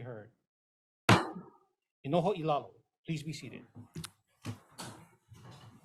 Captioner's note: gavel bangs once